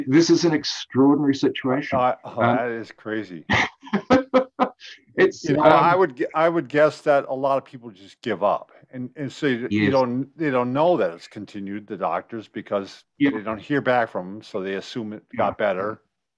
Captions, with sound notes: This is an extraordinary situation, and- - It's crazy. (laughs) I would guess that a lot of people just give up, and they don't know that it's continued, the doctors, because they don't hear back from them, so they assume it got better.